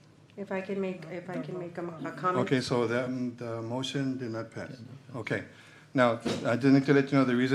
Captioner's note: clears throat